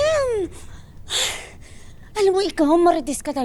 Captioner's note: sighs